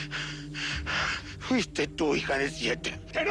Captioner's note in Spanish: Respiración agitada